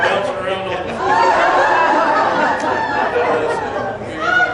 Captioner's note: laughter